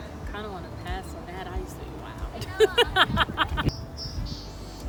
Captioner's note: laughs